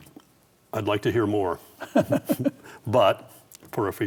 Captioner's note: laughs